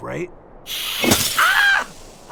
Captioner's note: Uglina hisses; screams in pain